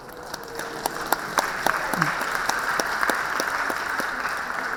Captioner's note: audience applauding